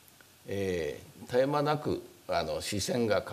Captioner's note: speaking japanese